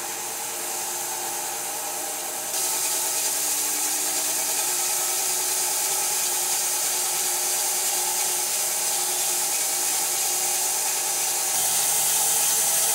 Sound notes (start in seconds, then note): 7.1 saw whirring